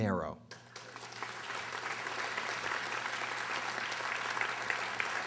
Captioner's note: audience applauding